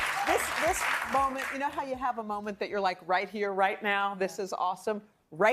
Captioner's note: applause